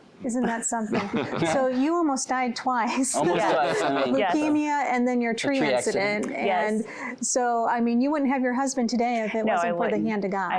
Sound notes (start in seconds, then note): 0.4 chuckling